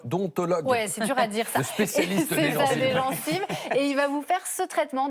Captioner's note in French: rires